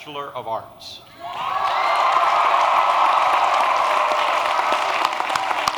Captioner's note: applause